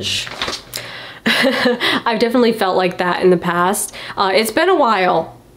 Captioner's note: laughs